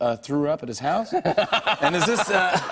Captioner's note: laughter